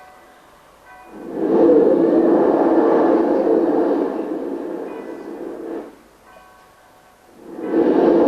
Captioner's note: shri mataji blows into the mic; shri mataji blows into the mic